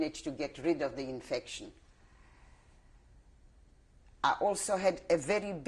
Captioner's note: pauses for 3 seconds